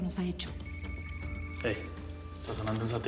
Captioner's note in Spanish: suena celular